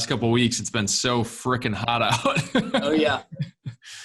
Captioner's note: laughs